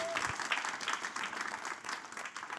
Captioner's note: audience applauding